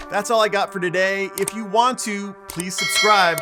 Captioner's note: mouse clicking; bell dinging